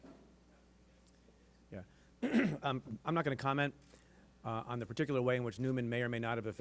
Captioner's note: clears throat